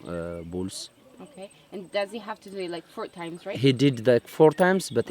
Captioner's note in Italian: Inglese